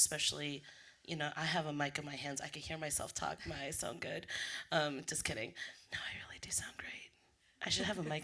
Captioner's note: whispers